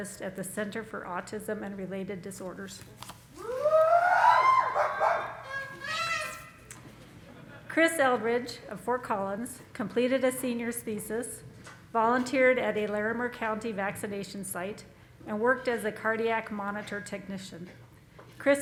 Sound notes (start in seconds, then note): 4.2 congregation applauding